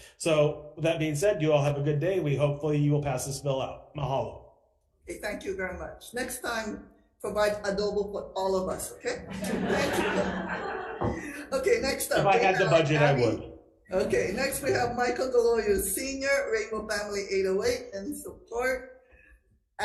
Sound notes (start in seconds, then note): 9.1 attendees laughing